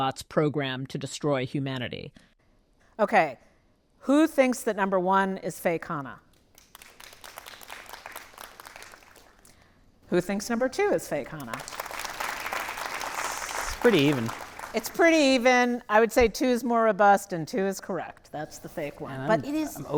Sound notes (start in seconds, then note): 6.6 audience applauding lightly; 11.4 audience applauding